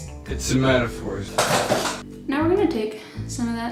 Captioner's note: chair scooting sounds